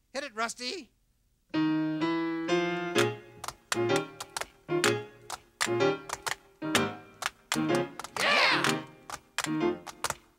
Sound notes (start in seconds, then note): 3.3 tap shoes clicking